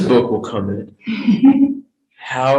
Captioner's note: laughs